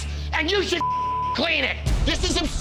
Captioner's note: beep